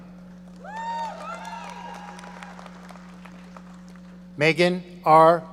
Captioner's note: audience cheering